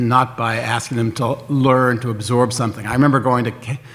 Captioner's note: none